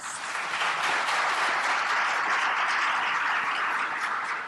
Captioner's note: audience applauding